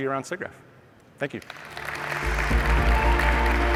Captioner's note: applause